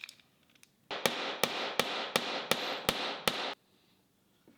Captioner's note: hammer banging